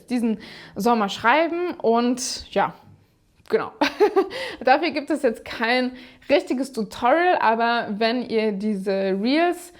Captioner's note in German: gelächter